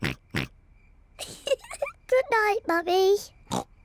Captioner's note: oinks; giggles; oinks